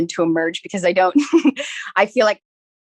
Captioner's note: laughs